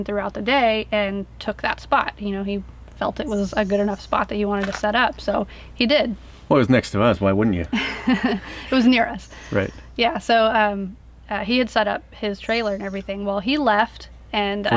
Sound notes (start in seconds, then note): 7.4 laughs